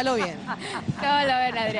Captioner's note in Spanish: risas